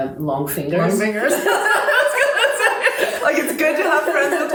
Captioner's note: laughter